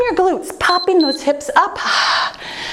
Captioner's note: timer beeps